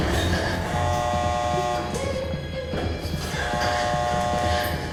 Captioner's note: alarm buzzing